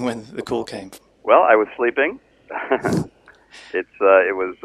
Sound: laughs

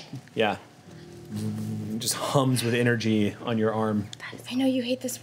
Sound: hums

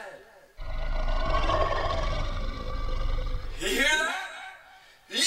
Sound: ghost shark growls

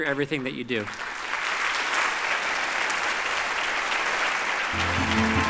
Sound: audience applause

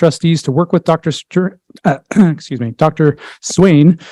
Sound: clears throat

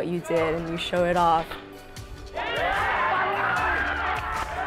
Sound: cheering, applause

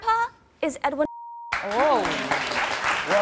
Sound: beep; applause

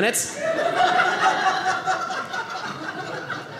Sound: audience laughing

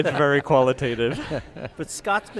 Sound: laughs

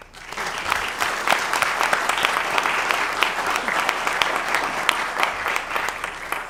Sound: applause

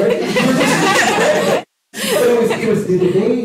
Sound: laughter

